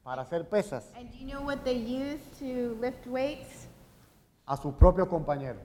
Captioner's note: speaking in Spanish; speaking in Spanish